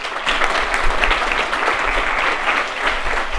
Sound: applause

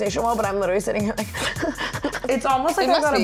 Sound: panting

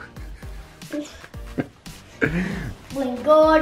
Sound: laughing

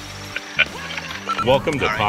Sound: camera man laughs

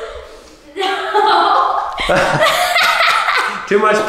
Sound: laughs

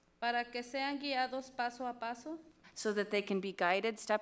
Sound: speaks foreign language

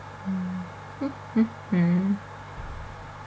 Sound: hums to nothing

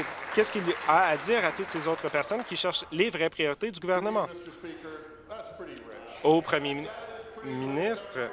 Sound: applause

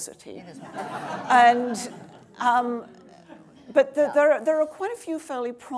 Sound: audience laughing

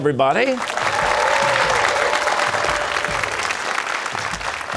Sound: cheers and applause

